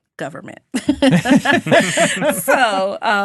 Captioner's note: all laughing